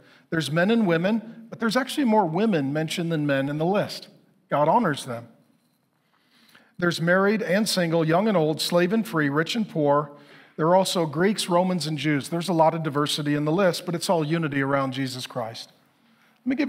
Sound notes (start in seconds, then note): none